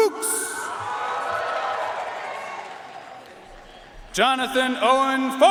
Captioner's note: audience cheering and applauding